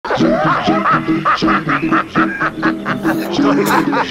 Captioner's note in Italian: Risate